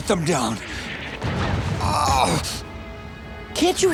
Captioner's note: groaning